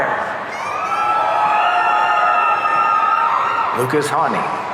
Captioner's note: audience cheering